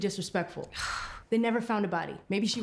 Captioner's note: Claire scoffs